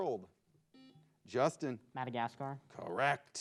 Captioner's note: buzzer beeps